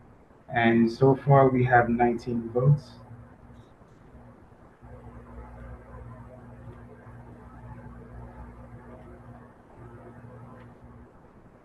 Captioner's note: pause